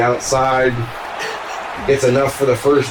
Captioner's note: crowd Noises